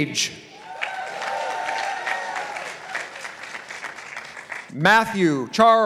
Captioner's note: participants applauding